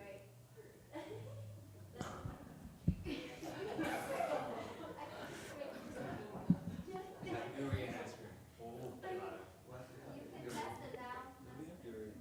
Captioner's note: audience laughs